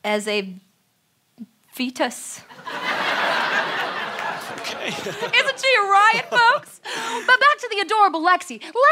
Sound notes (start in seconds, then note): 2.5 laughter